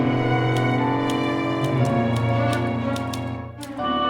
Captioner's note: typewriter clicking